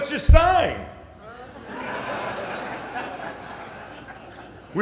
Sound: laughter

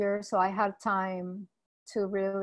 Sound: none

